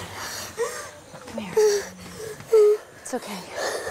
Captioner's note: Crying